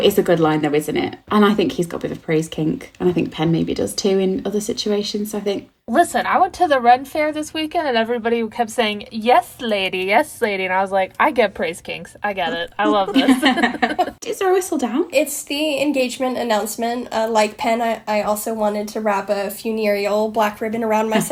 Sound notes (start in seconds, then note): 12.5 laughing